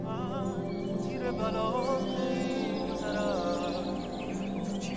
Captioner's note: bright music; birds chirping